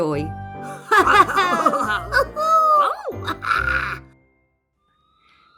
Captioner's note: cheering